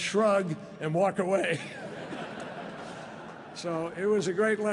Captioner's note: laughter